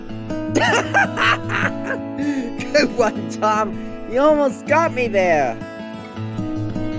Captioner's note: laughing